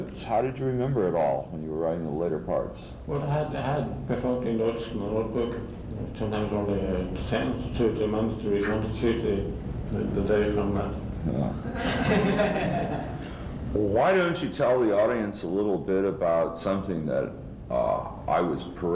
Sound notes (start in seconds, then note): 11.6 laughter; 11.8 definitely laughing in that crowd